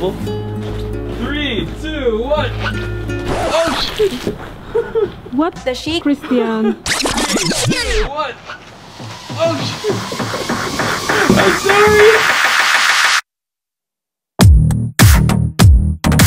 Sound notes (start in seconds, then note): 3.2 record scratching; 4.6 laughing; 6.8 tape machine rewinding